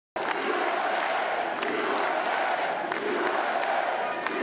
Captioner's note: applause